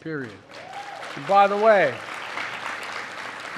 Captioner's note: applause